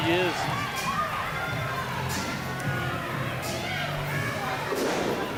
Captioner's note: crowd yells